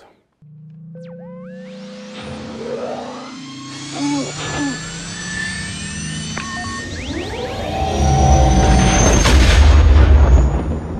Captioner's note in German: Millennium Falcon Motorengeräusche